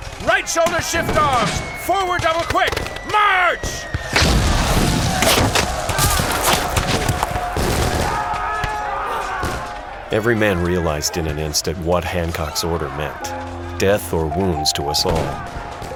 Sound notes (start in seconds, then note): 4.1 explosion; 6.6 gunfire, yelling